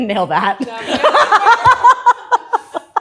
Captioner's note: laughs